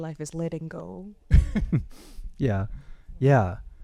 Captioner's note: chuckles